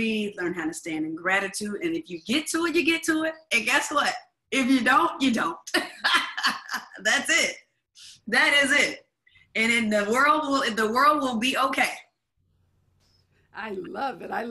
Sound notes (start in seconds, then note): 5.8 laughs